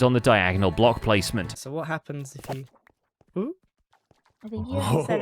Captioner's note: intrigued laughter